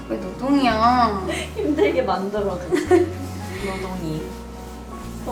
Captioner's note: haha